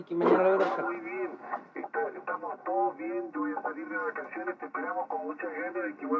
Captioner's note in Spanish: Comunicación por radio